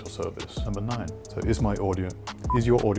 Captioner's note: beep